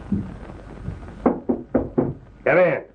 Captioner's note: knocking